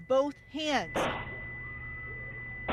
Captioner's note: gunfire